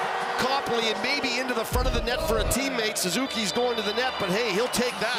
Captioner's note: cheering